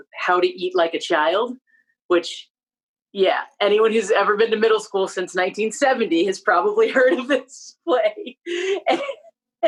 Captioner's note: laughter